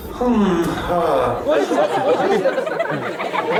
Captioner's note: non-english speech; villagers laughing